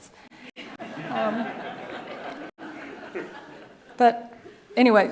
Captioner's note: audience laughing